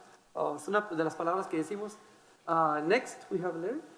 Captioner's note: speaking in foreign language